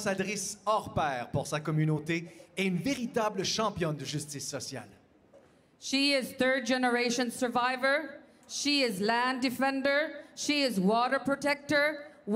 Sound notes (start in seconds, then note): 1.9 speaking French